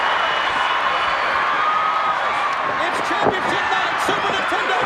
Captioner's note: applause